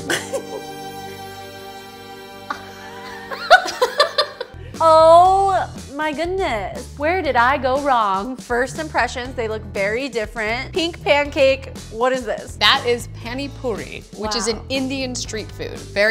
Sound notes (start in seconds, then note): 0.0 somber music; 2.5 group laughing